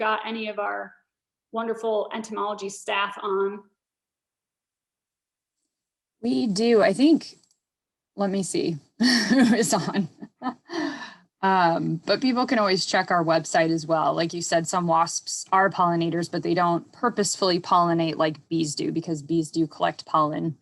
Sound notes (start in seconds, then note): 9.0 chuckles